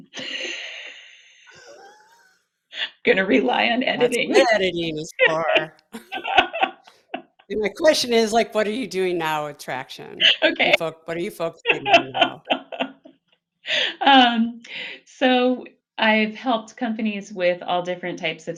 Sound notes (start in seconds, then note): 1.5 both laughing; 5.9 both laughing; 13.2 both laughing